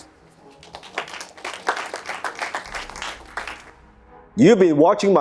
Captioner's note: audience clapping